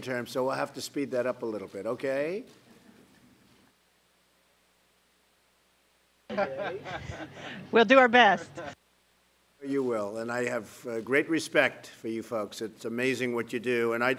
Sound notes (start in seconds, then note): 6.3 laughter